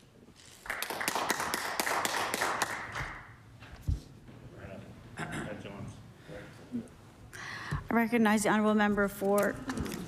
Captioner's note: applause